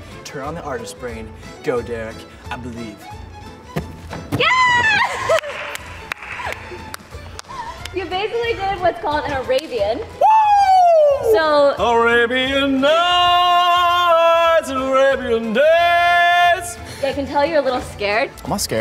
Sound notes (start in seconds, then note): 5.2 claps